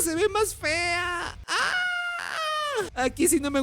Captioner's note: scream of disappointment